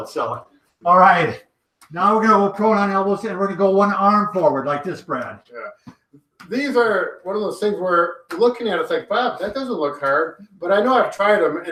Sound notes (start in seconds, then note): none